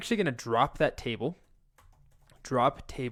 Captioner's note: keyboard typing